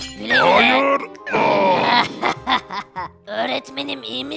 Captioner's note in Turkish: Gülme sesi